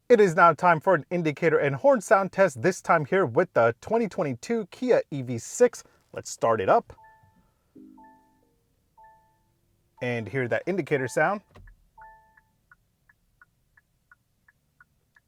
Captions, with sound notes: It is now time for an indicator and horn sound test. This time here with the 2022 Kia EV6, let's start it up. (car beeping) And hear that indicator sound. (indicator ticking)